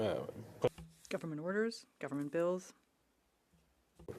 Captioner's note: speaking French